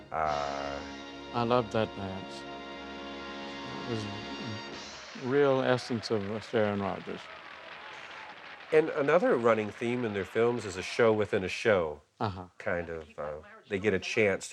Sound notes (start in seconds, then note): 4.8 applause